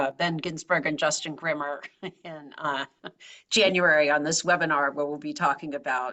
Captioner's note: laugh